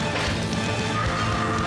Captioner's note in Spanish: grito desaforado